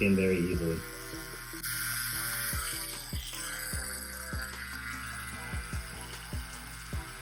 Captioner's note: slow groovy music; tattoo gun buzzing